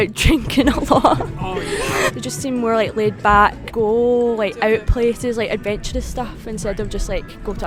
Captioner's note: laughs